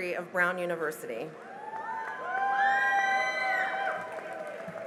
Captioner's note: cheering and applause